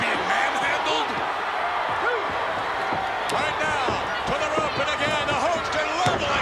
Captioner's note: applause